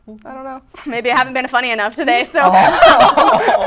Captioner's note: laughing; laughter